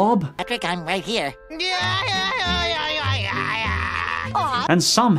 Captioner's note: yelling gibberish